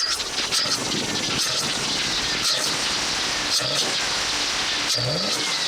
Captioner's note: sounds Of A Fish